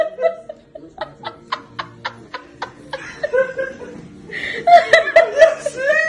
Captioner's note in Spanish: La risa